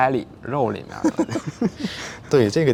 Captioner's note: both laughs